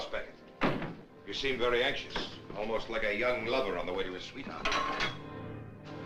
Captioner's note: metal Clangs